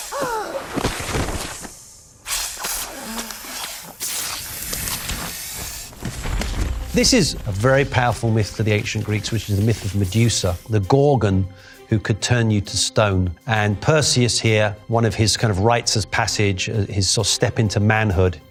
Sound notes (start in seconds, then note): 0.7 Medusa thudding; 2.5 snakes hissing